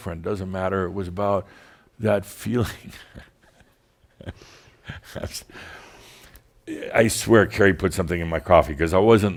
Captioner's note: Adamus chuckles